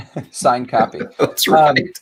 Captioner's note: laughing amusingly